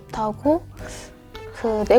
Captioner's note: inhales